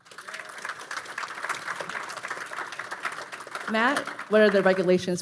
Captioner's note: audience applauding